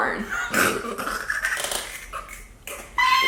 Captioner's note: laughing